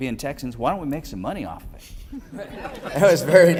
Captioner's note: laughing